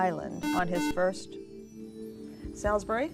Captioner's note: buzzer